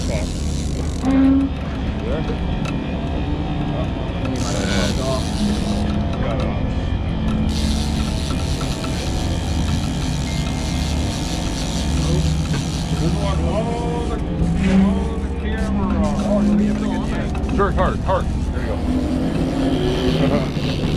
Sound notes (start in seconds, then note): 7.2 reel cranking